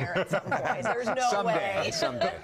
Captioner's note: laughter